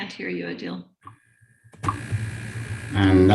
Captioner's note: audio feedback